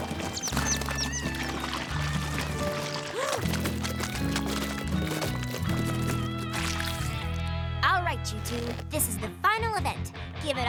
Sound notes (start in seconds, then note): 3.2 gasps